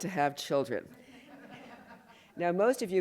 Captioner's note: laughter